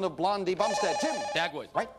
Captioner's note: bell rings